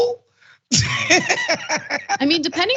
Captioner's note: laugh